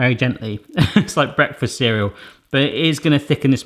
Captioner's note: laughs